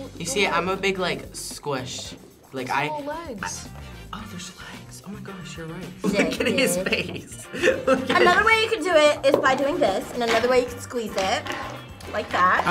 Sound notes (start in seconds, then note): 6.0 laughs